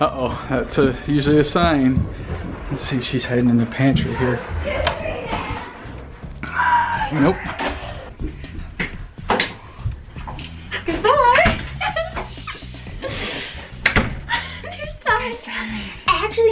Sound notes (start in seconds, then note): 10.6 giggles